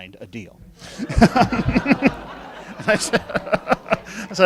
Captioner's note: laughing